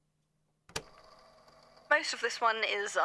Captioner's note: click